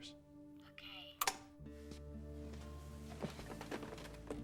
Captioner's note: clicks off